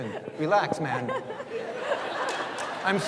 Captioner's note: audience laughs